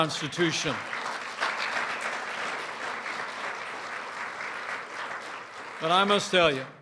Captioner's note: applause